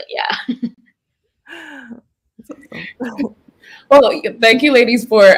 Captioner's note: general laughter